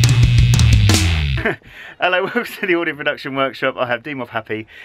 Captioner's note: giggling